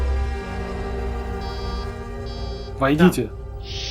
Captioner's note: door buzzes